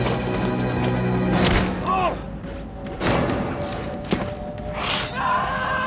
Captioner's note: dramatic music; footsteps thudding; Russell cries out; metal thuds; Russell screams; sword pings